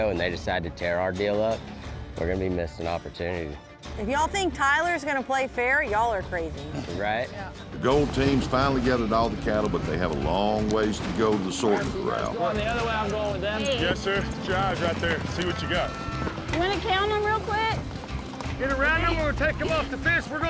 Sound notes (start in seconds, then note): 11.5 all chattering